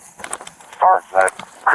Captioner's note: radio chatter